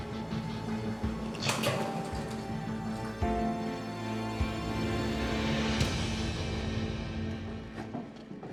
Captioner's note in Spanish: sonido al abrir la puerta